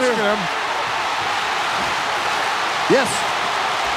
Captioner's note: audience cheering